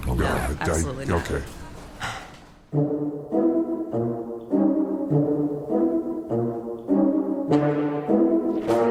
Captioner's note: sighs